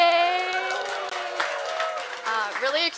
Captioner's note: cheering